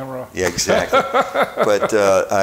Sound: chuckling

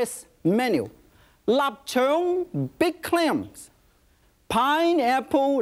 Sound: speaks in foreign language

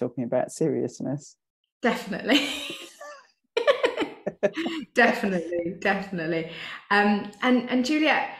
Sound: and she laughs

